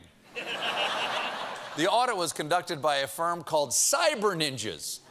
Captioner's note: laughter